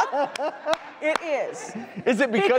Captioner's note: applauding